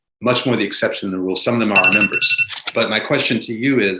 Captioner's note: phone ringing